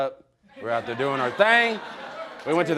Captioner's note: audience laughing